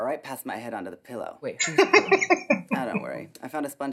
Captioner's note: laughing